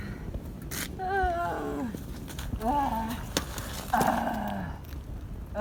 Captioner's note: groaning happily